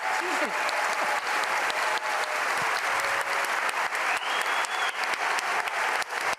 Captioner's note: applause